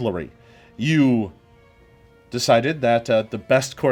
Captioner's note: none